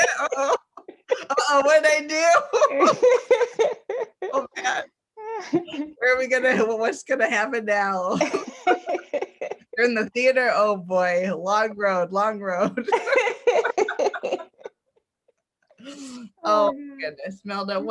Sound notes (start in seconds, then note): 0.0 laughs; 2.4 both laugh; 8.2 laughs; 12.8 both laugh